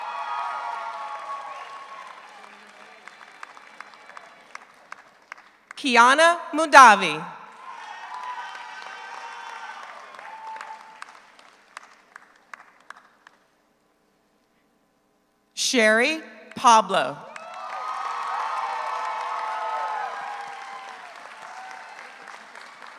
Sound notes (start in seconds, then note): 0.0 audience cheers; 0.0 audience applauds; 7.5 audience applauds; 7.5 audience cheers; 17.3 audience cheers; 17.3 audience applauds